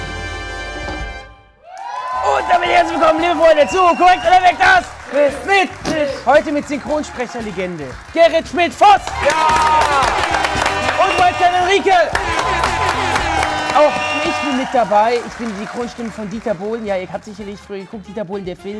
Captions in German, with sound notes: (Musik verklingt.) Damit willkommen, liebe Freunde, zu "KORREKT oder WEG!", das ... - Quiz ... mit ... - Tisch. Heute mit Synchronsprecher-Legende Gerrit Schmidt-Foß! Jaaa! (Applaus, Hupen, Jubel) Und Wildcarderin Rieke. (Applaus, Hupen, Jubel) Auch ich bin mit dabei, ich bin die Synchronstimme von Dieter Bohlen. Ihr habt sicherlich geguckt, Dieter Bohlen, der Film.